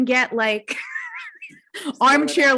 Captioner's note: laughs